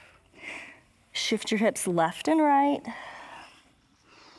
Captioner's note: exhales